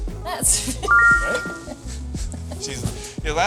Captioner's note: text chiming brightly; laughing